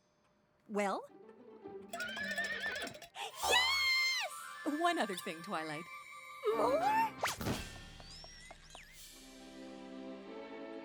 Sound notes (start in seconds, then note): 1.9 whinnies; 7.3 thud!